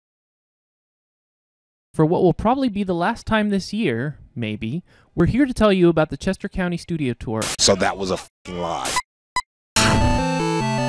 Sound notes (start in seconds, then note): 7.4 SFX: static; 9.1 SFX: beeping; 9.1 SFX: static; 9.8 theme music playing